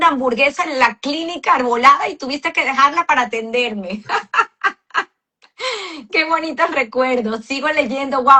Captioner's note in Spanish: risas